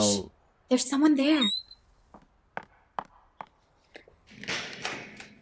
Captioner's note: door squeaking